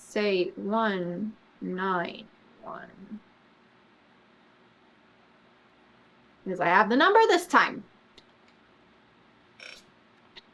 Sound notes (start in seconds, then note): none